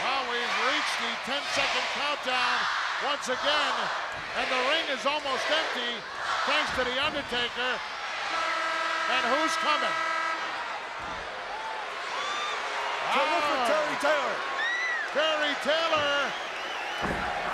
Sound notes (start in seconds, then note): 7.9 buzzer blares